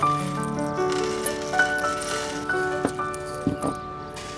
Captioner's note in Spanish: Ruidos pequeños cristalinos